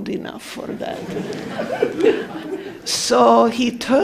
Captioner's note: laughing